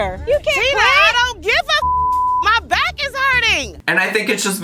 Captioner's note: beep